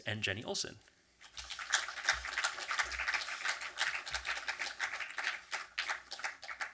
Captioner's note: audience applause